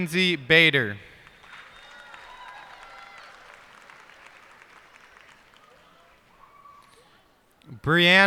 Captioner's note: cheers and applause